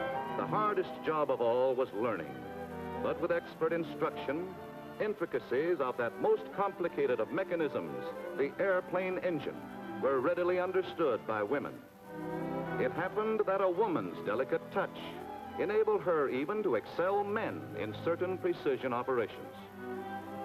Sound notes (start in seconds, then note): 0.5 voiceover